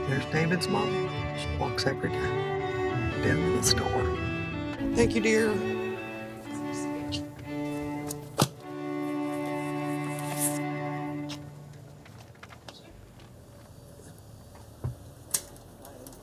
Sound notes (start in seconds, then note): 6.2 gentle orchestral music; 8.2 newspapers thudding